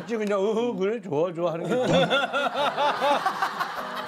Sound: laughing

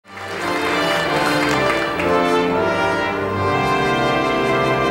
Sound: audience applauding

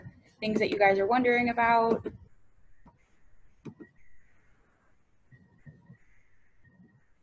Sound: pause

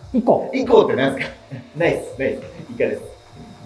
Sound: laughing

